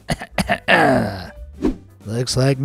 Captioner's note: clears throat